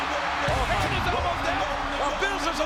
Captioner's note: crowd cheers drown out Jerry